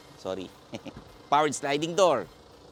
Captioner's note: chuckles